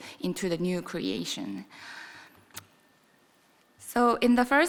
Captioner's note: none